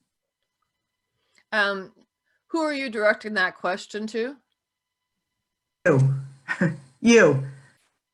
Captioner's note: soft laugh